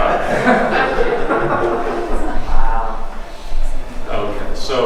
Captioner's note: audience laughs